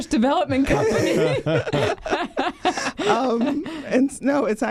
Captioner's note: everyone laughing